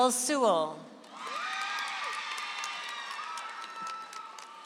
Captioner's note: audience applauds